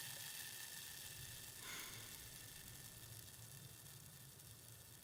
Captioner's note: liquid fizzing; Ellie sighing